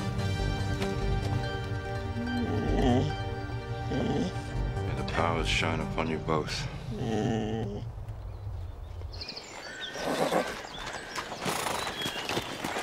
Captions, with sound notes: (upbeat music) (dog groaning) - May the powers shine upon you both. (horses whinnying)